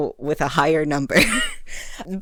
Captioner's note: coughs